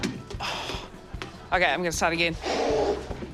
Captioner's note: blows; sighs